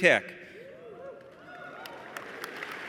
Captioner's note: applause